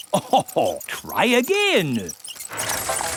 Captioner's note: chuckles